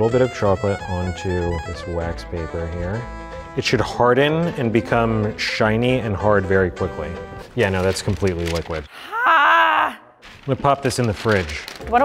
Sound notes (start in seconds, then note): 9.0 groans loudly